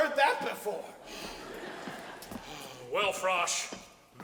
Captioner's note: audience laughs